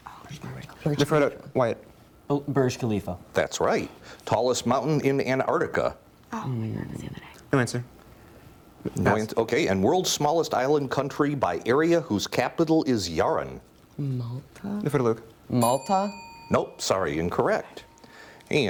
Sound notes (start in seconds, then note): 0.2 team whispering; 6.5 team whispering; 15.6 bell rings